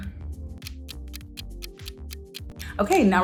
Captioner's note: clock ticking